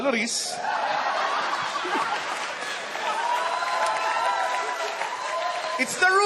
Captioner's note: uproarious laughter